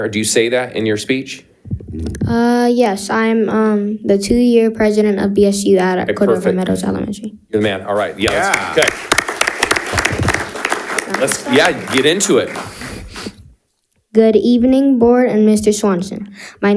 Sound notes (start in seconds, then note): 8.0 audience applauding